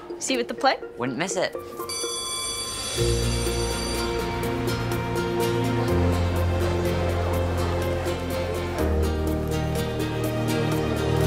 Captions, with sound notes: - See you at the play? - Wouldn't miss it. (school bell rings) (light uplifting music)